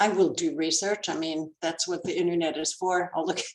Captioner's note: laughs